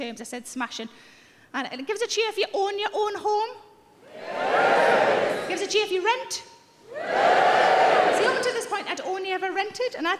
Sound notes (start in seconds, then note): 4.0 audience cheering